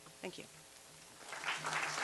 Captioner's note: applause